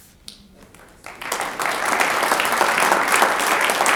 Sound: audience applauds

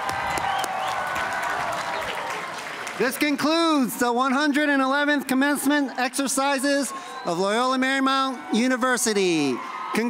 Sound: cheers and applause

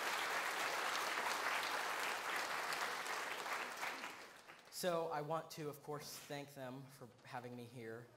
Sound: applause

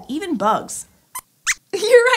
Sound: squeaks squeaks

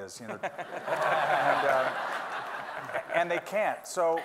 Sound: everyone laughing

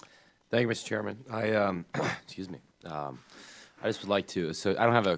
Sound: clears throat

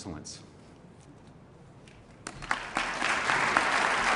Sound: applause

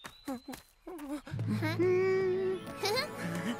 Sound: humming tune; chuckles

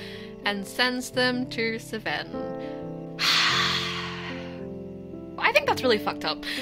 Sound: sighing

